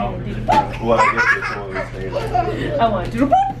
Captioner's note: giggles